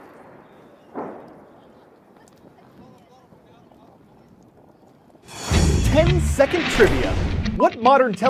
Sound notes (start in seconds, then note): 2.9 voice-over